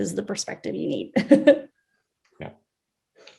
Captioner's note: chuckles